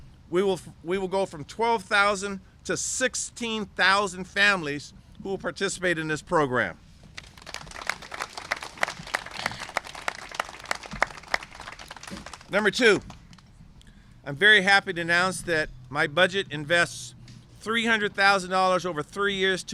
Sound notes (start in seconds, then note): 7.1 applause